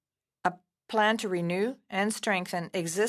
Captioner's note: speaking French